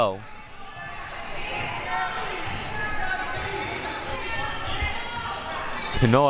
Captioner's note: audience chattering and yelling